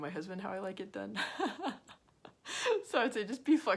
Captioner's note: laughs